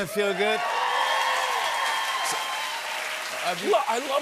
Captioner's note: cheers and applause